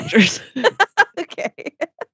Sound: laughs

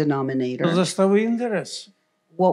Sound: foreign language

